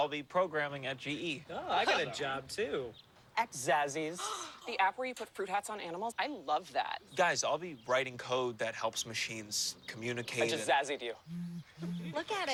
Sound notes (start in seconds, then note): 4.2 friends gasp; 11.3 phone vibrates